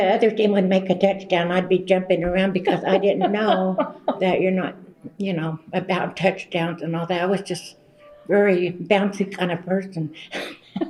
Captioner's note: laughter